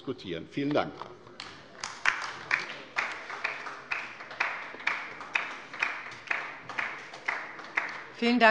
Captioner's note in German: Beifall bei der LINKEN